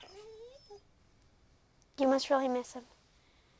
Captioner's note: Buck whines